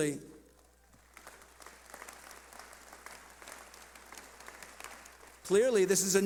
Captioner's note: clapping